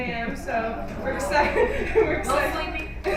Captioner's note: collective gasp